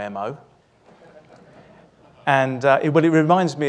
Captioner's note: audience laughs